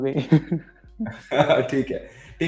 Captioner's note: laughing